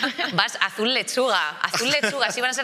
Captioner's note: they laugh